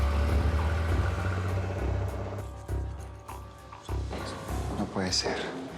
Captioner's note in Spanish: ruido del auto al irse